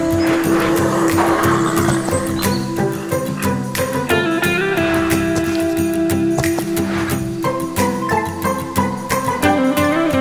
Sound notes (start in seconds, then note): 0.5 horses nickering; 4.9 hoof stomping